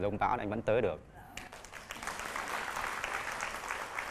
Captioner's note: clapping